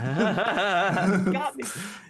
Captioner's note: laughing